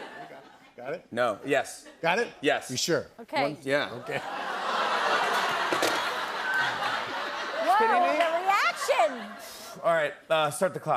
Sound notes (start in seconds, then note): 4.5 audience groans; 5.8 laughter